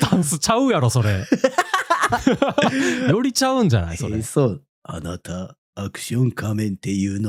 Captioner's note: laughter